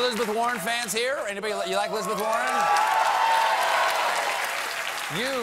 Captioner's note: applause